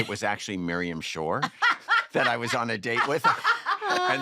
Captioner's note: laughing